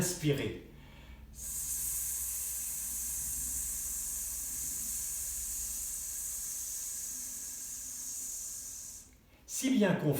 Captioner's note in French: Sssssssss